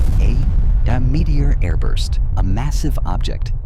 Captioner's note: meteor airburst